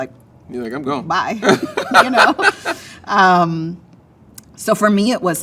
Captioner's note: laughs